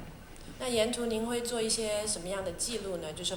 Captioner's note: Mandarin